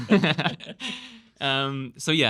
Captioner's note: laughing